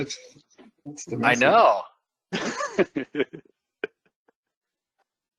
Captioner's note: laughter